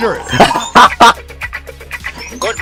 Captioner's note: a usual laughter